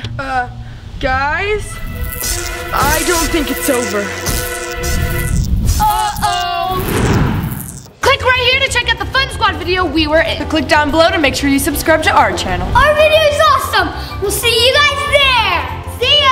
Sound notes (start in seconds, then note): 6.7 air whoosing